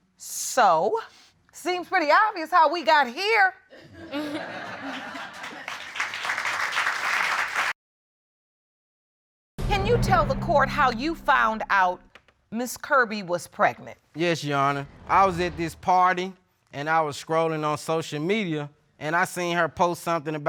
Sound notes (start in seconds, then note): 3.8 chuckling; 4.8 audience applauding